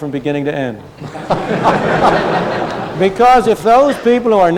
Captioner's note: laughter